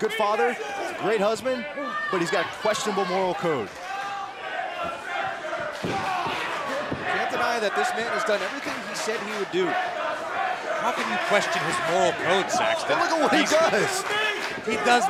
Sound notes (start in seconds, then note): 6.1 fans chanting